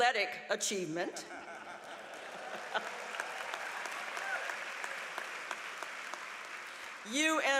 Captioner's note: applause